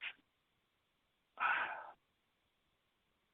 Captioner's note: sighs